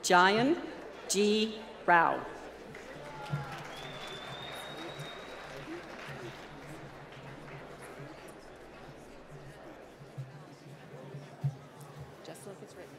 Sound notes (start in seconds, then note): 2.4 applause